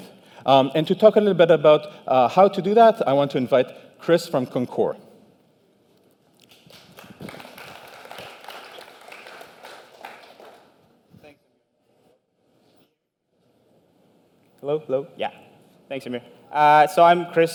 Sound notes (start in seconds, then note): 6.4 applause